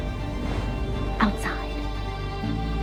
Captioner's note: voiceover; whispering